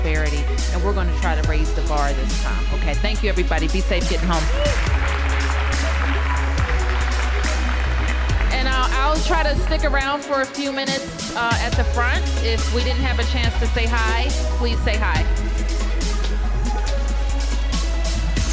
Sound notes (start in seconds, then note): 7.3 applause